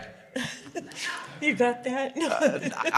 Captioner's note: audience Laughing